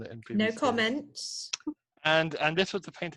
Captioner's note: laughs